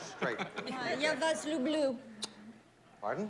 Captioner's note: speaking russian